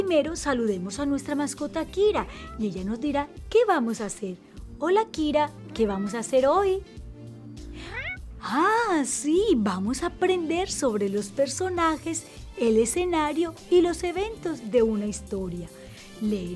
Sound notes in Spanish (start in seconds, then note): 4.9 maúlla